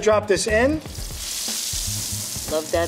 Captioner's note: sizzling